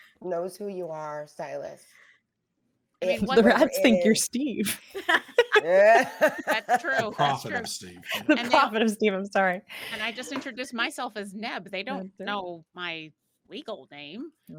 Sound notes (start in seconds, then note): 4.7 all laughing